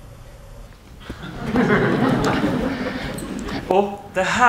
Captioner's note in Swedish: skratt